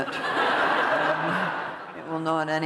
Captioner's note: laughter